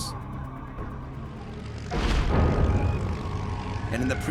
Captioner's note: engine roaring